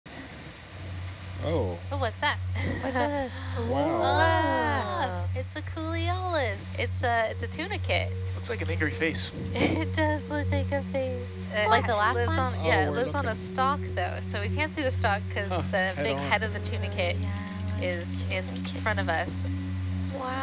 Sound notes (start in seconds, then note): 3.6 group exclaims